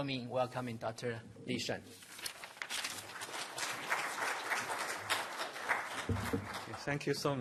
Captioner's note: applause